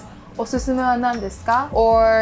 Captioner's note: speaking Japanese